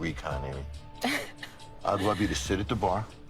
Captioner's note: laughing